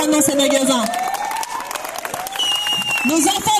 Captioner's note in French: applaudissements